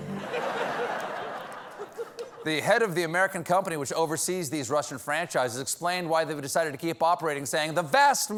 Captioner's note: laughter